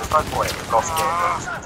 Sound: groans angrily

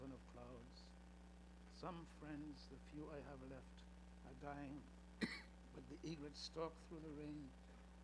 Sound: coughs

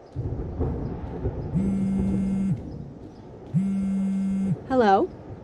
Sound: phone vibrates

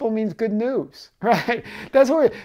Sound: chuckling

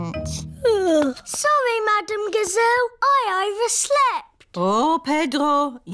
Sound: yawns

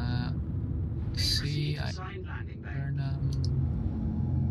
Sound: on the radio

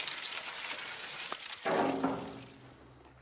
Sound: tinny clatter

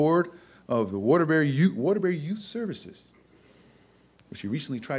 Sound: none

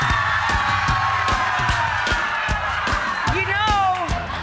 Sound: audience cheering and laughing

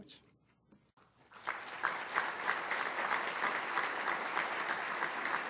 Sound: applause

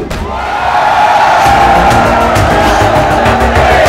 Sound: all cheering

